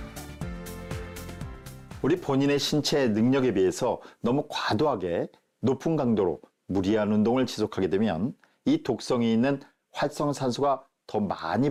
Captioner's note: voiceover